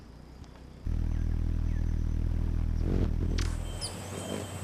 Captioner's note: bird chirping; bird wings flapping; bird chirping